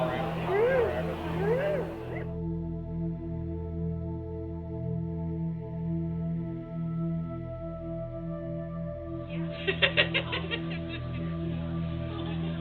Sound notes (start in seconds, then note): 2.3 calm music; 9.4 laughs